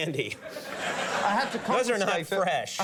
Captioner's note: audience laughs